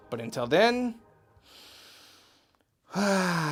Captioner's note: inhales slowly and deeply; exhales relievingly, sighing